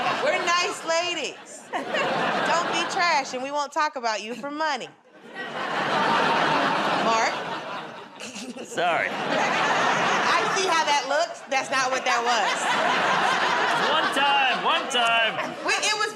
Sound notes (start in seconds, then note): 5.3 laughter